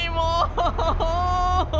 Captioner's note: sobs